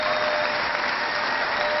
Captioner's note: cheering